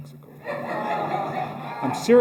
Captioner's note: laughter